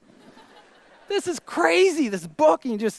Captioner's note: audience laughter